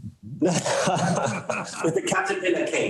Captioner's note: everybody laughing